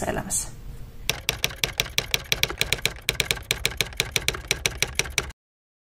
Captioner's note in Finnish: kirjoituskoneen naputusta